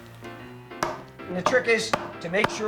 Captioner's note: pounding